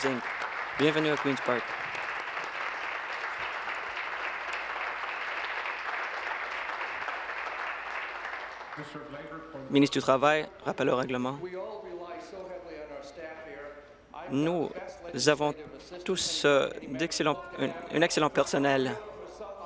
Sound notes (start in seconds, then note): 6.4 applause